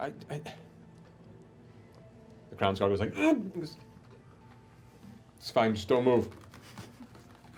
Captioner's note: grunts